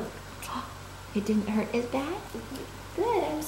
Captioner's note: gasp